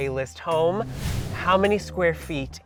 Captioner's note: air whooshes